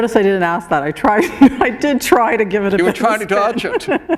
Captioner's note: laughter